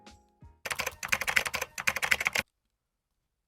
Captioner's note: dope typing noises